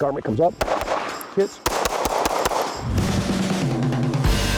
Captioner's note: gunshots; rock music